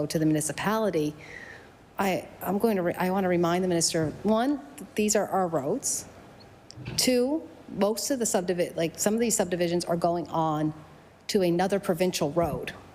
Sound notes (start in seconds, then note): none